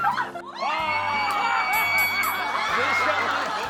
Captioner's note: screaming